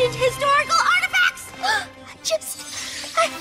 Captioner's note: gasps